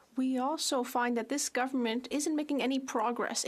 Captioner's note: speaking French